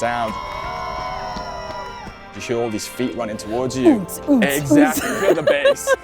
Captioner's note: cheering